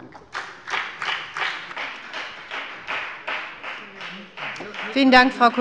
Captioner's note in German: Beifall bei der FDP